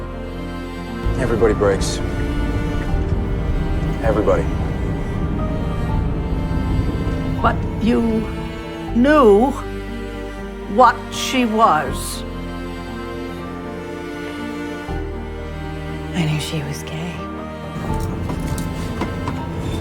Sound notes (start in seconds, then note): 1.2 voiceover; 7.6 voiceover